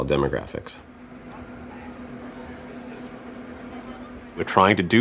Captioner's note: people chattering